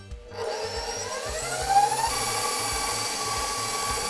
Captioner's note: mixer whirring